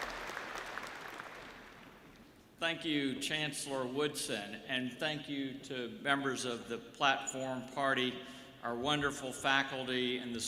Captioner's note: applause